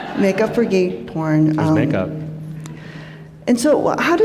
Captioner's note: laughter